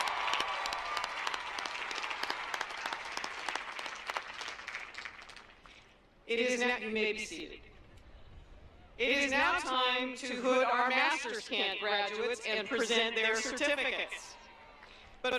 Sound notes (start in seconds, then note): 4.3 applause